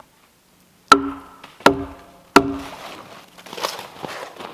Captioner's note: hammer thudding